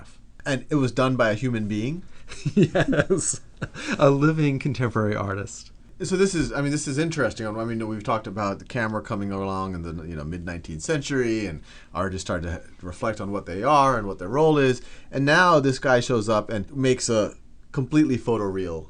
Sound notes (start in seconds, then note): 2.3 laughs